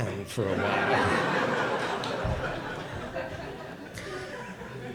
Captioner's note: audience laughs